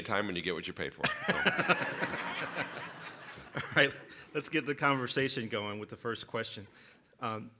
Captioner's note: laughter